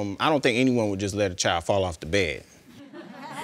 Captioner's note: audience chuckles